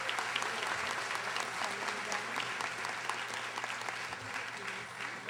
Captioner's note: audience applauding